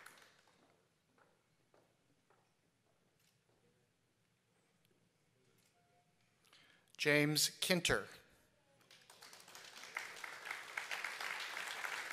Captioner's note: applause